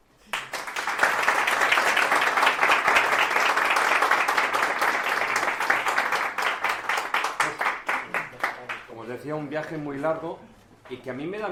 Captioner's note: applause